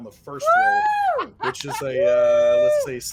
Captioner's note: all cheering